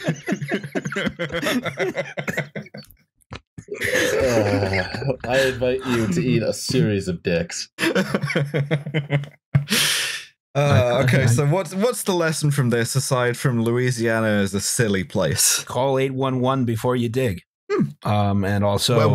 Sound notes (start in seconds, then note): 0.0 laughter; 7.7 laughter